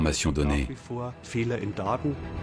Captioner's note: German spoken audio